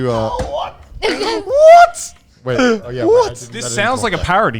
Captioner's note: laughing